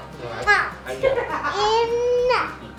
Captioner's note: adults laughing